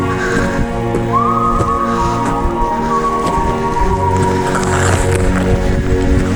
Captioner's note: both loudly breathing; footsteps plodding; rocks scraping